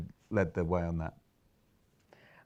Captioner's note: silence; inhales